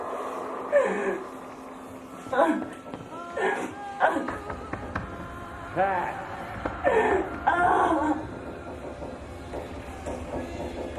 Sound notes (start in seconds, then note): 7.4 Pat sobbing; 8.0 knocks